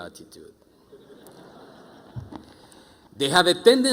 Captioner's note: audience chuckling